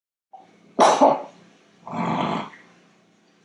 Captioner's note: coughing sound